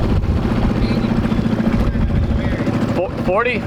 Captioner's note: yells